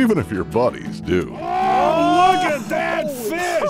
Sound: shouting

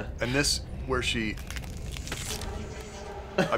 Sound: neck crack

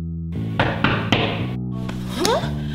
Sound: knocking at the door

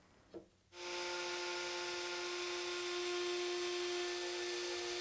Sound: router whirring

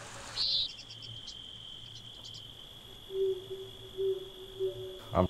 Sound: water rushing. Owl hooting. Birds chirping

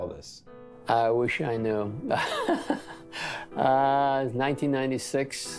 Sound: laughs

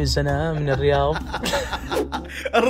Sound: both Laughing

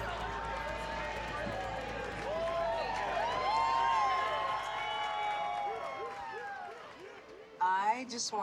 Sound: all cheering

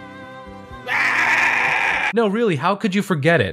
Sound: person screaming

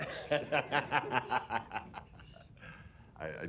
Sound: laughter

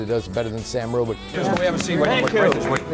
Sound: clapping off camera

